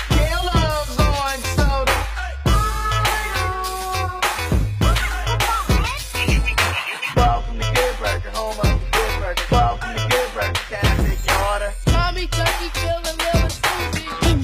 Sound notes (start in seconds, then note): 2.5 calling